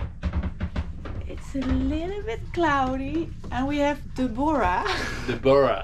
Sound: laughs

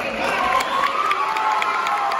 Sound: cheers and Applause

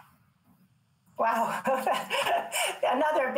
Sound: she laughs

